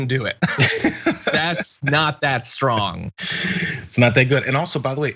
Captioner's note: laugh